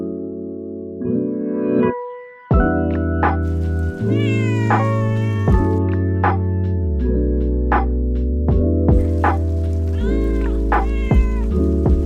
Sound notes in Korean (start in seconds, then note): 3.4 애오옹